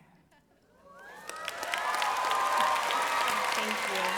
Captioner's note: applause